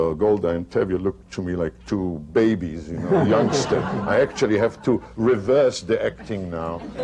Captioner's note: laughter